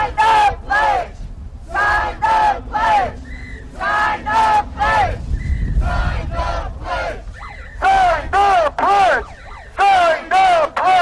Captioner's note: chanting; chanting; chanting